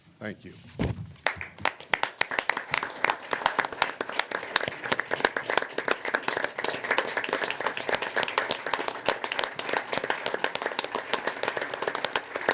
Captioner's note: applause